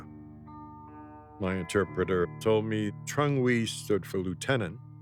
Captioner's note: speaking foreign language